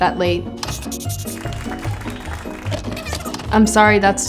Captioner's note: hands clapping